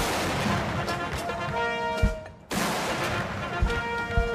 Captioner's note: gunshots